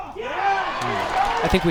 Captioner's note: crowd cheers